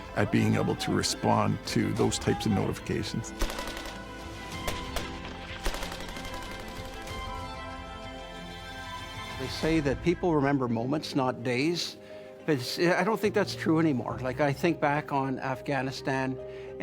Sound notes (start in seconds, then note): 5.2 bright music; 5.6 weapons blast